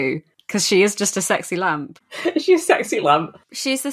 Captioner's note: laughing